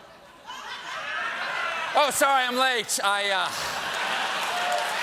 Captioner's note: laughter